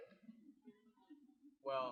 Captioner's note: laughter